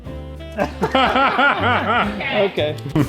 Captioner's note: dad laughing